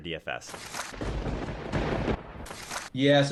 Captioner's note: thunder crackling